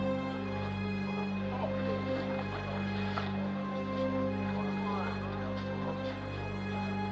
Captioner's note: people talking in background